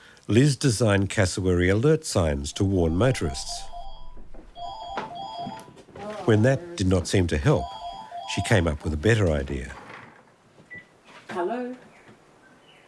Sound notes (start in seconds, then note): 2.5 phone ringing; 11.2 phone beeping